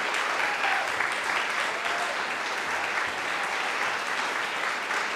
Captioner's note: audience applauding